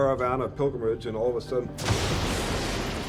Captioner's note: lightning cracks